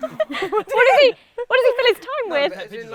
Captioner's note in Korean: 웃음